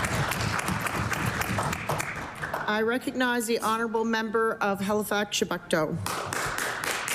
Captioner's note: applause